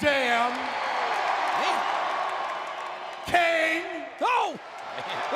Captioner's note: applause